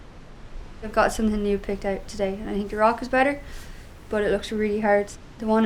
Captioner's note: laughs